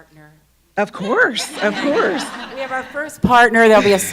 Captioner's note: laughs